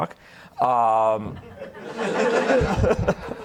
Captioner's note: audience laughter